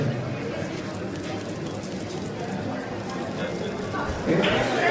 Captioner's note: speaking Spanish; cameras clicking